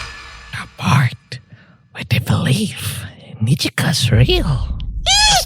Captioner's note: talks in a menacing voice